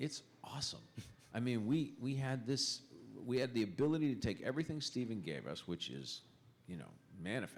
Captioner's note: chuckle